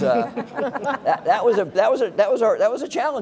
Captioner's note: laugh